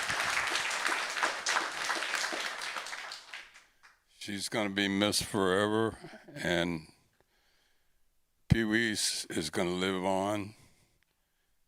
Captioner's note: applause